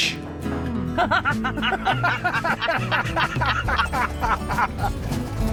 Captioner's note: laughing